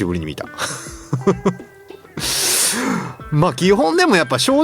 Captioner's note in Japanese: 笑い